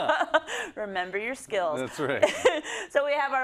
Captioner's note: laugh